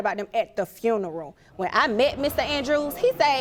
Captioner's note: audience exclaiming